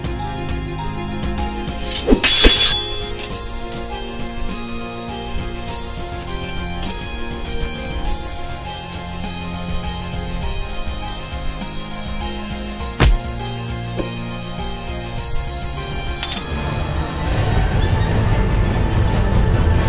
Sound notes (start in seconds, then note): 1.8 swords clashing; 13.0 sword swing